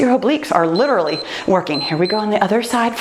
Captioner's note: timer beeps